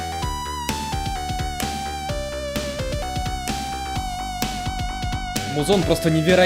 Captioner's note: snapping